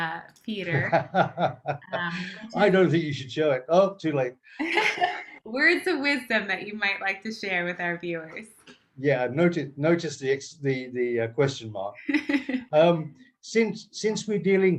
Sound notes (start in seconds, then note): 0.7 laughs; 4.6 laughter; 12.0 laughter